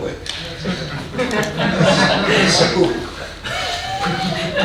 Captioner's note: audience laughing